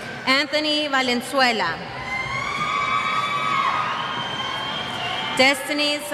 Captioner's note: cheers